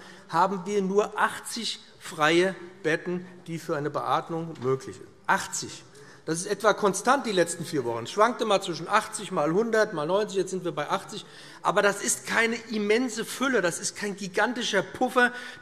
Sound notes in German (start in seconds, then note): none